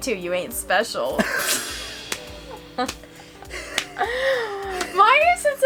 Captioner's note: laughs sarcastically